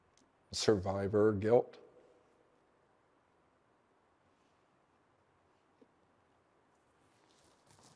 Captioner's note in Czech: zlomeným hlasem